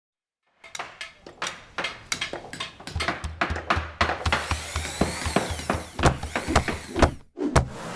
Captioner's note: construction noises